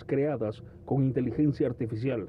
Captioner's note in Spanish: habla en ingés